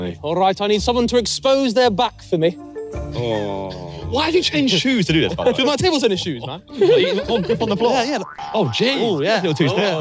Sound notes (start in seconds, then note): 7.1 all laughing